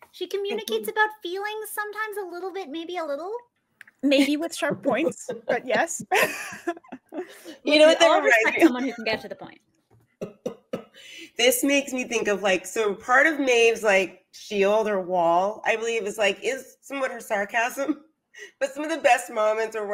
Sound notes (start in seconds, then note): 4.7 laughs